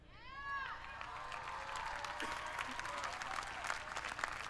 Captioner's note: applause